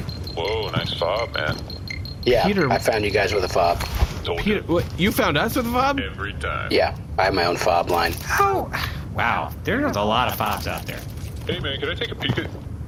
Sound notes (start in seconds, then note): 4.9 whispering